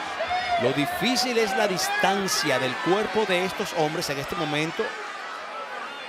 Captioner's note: crowd cheering; commentator speaking Spanish